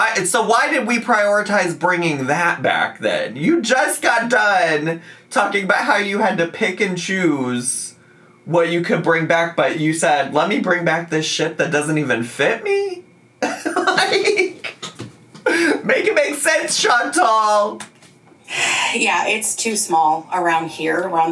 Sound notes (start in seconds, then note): 13.4 laughing